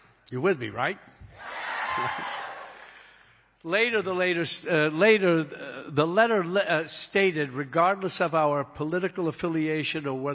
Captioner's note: cheering